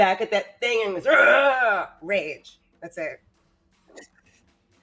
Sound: Fairuza screams

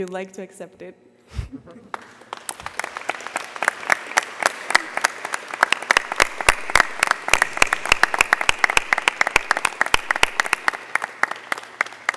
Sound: applause

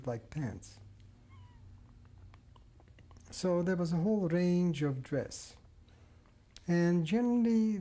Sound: pauses for 3 seconds

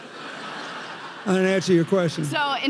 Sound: audience laughing

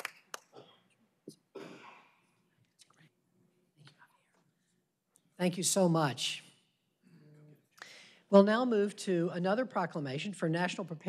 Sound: applause

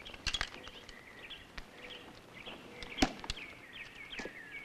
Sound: birds chirping

